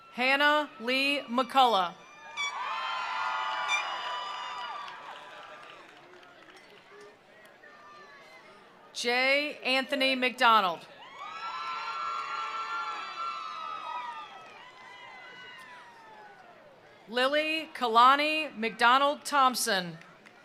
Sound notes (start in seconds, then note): 2.0 attendees cheering; 2.8 attendees applauding; 11.0 attendees cheering; 11.3 attendees applauding